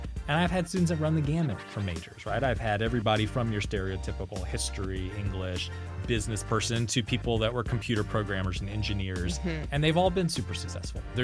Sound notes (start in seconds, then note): none